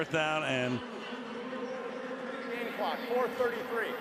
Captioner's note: pa announcement